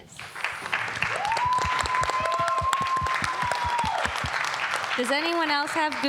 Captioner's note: applause